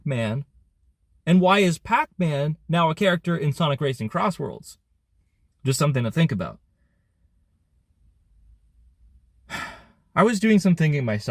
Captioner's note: sigh